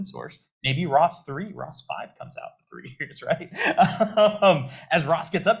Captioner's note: laughs